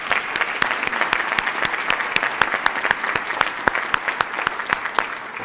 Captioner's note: applause